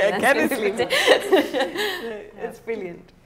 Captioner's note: laughing